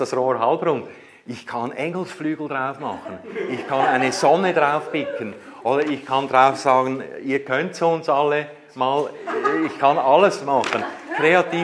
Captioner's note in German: Gelächter